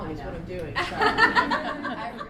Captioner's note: laughter